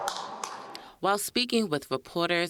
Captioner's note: cheers and applause